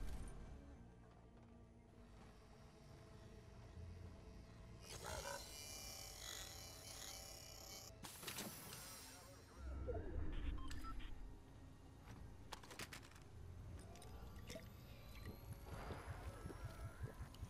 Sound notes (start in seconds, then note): 5.0 electronic screen hums; 10.2 radio beeps; 12.2 gun reloading; 14.5 chugging drink